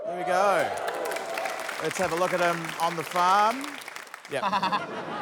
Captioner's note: cheering, applause; laughs